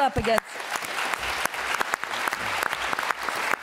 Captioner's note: applause